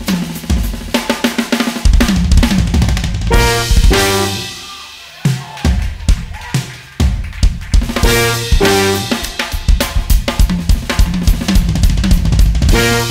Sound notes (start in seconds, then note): 5.1 crowd cheering; 8.5 upbeat drum music